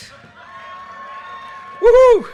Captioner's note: audience cheers and applause